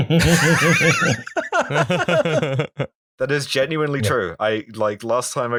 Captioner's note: laughter